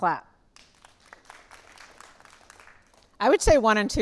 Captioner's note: audience applauding lightly